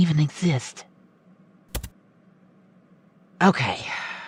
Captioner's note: typing